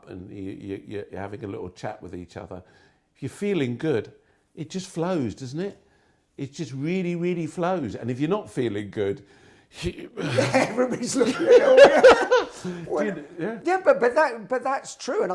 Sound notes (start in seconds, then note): 9.9 sighing; 10.2 laughing